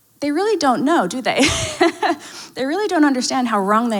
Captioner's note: laughs